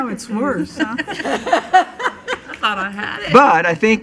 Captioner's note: laughing